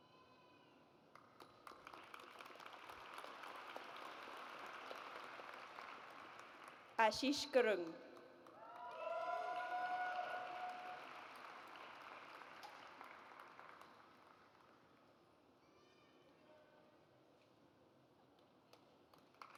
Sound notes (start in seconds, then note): 1.2 audience applauds; 8.6 audience cheers